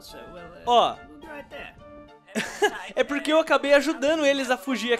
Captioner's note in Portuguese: Risos